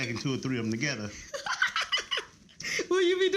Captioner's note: laughs